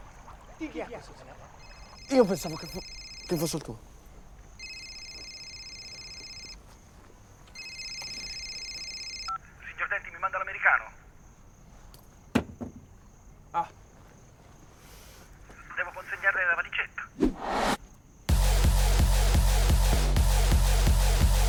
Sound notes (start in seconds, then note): 4.5 phone ringing continues; 12.3 thud; 18.3 techno music playing